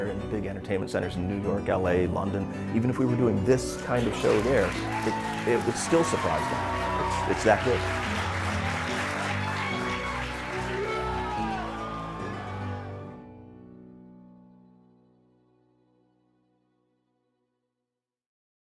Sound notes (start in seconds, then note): 8.2 cheers and applause